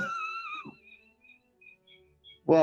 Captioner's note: sniggering; echoes as feedback